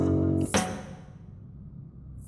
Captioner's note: slap